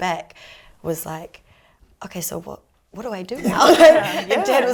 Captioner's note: laughs